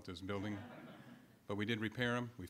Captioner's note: audience laughing